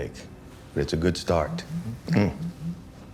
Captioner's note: phone vibrates